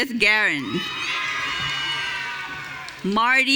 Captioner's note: audience cheering